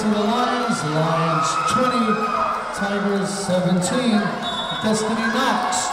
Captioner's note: whistle blowing